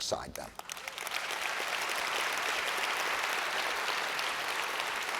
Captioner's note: audience applauds